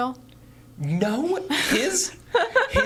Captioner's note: laughing